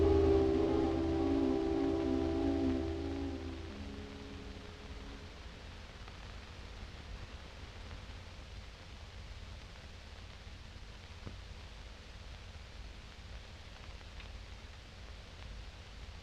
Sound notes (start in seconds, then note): none